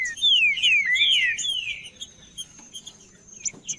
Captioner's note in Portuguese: trinca ferro cantando